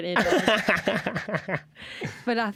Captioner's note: laughter